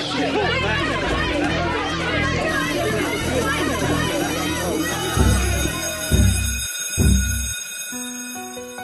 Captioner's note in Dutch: schoolbell rings